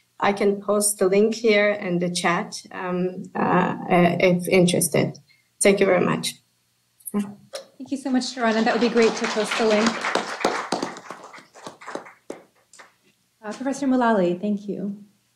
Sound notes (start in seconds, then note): 10.2 applause